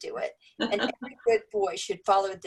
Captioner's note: laugh